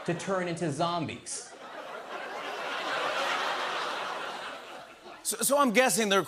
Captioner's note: laughter